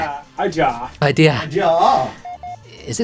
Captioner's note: off-screen shouting "IDEAHHH"